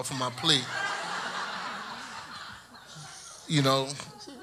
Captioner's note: audience laughs